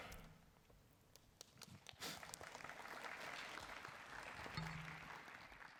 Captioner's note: applause